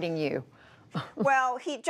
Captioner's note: laughter